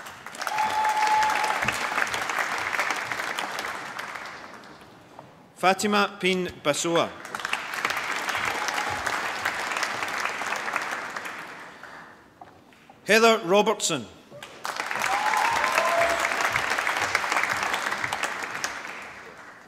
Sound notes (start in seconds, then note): 0.0 applause; 7.0 applause; 14.4 applause